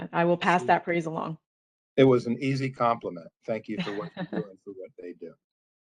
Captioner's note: laughter